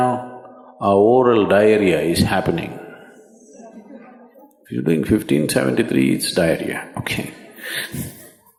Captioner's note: laughs